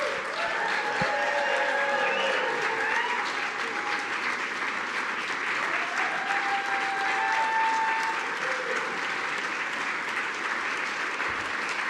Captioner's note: applause